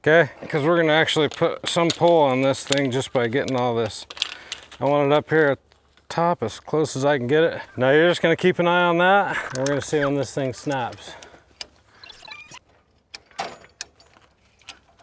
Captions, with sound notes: Okay? Because we're gonna actually put some pull on this thing just by getting all this. (metal chain clinking) I want it up here at the top as close as I can get it. Now, you're just gonna keep an eye on that and we're gonna see when this thing snaps. (tightening rod ratcheting)